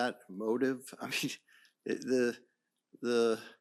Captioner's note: chuckles